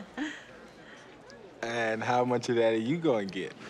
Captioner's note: nervous Laugh